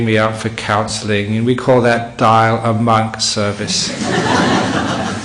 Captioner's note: laughter